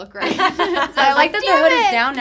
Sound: all laughing

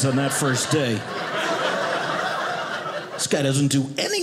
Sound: audience laughing

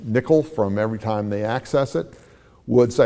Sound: coins dropping

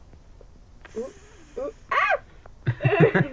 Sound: Caylie imitating sizzling; Cody laughs

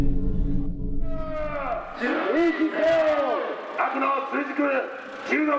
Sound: shouting in Japanese

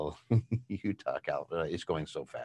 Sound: chuckles

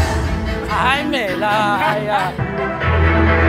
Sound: Mandarin

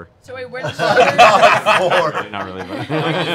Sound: laughter

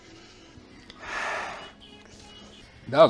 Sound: hard Exhale

